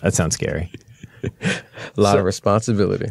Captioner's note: laughter